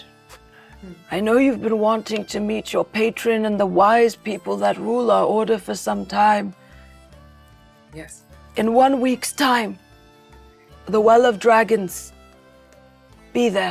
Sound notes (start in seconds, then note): none